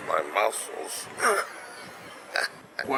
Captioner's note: pirate Chuckling